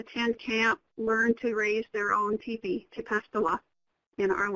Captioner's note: speaks foreign language